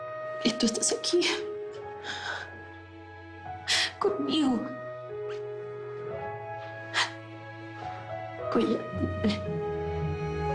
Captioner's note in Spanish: Solloza